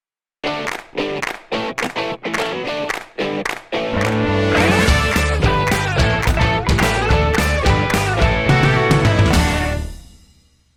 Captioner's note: claps